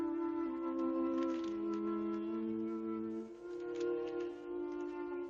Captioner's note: paper rustling